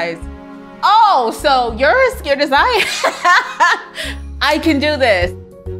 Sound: laughs joyfully; soft inspirational music

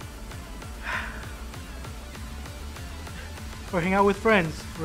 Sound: takes breath

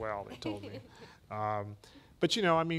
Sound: laughing

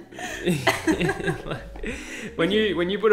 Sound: both laughing

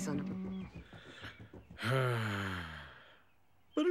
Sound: sighing

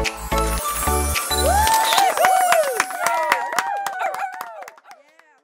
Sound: cheering and applause

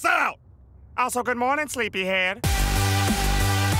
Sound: cheerily

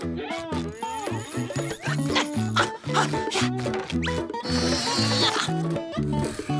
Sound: grunting

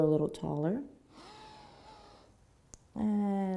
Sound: inhaling

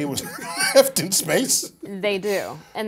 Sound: laugh

